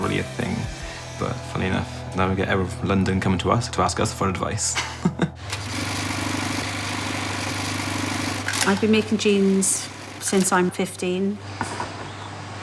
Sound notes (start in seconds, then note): 4.6 laughs; 5.4 sewing machine vibrating